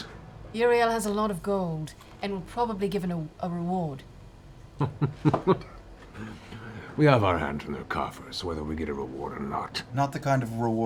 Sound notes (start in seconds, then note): 4.8 laughs